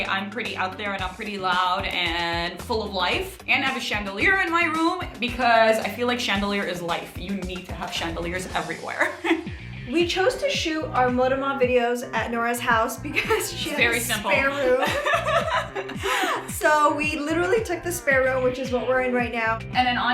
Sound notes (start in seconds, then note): 15.5 laughing